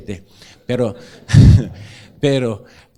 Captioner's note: laughs